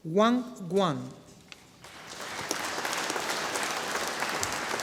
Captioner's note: audience applauding